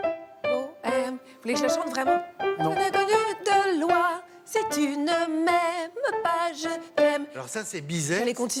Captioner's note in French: chant